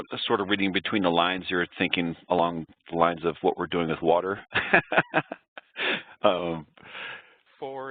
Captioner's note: laughs